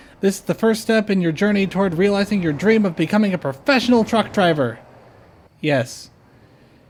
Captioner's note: none